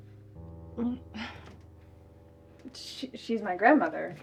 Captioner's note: Danielle chuckles softly